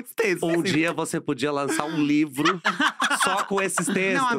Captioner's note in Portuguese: risos